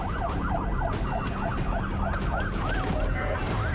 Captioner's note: siren wailing